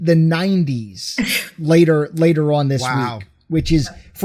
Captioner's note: laughs